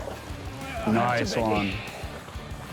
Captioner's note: water splashes; grunts